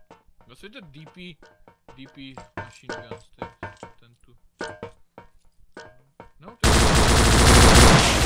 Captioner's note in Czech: přeřván střelbou